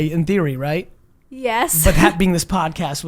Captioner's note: laughs